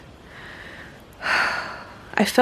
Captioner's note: yet another happy sigh